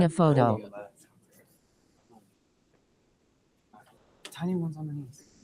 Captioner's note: people chatter indistinctly